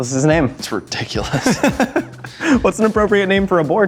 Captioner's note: laughs